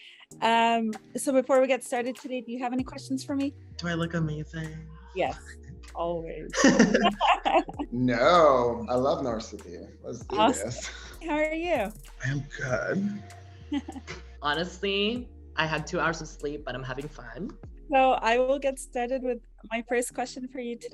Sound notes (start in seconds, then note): 6.5 laughs; 12.2 laugh